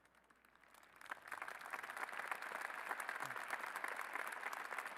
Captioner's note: applause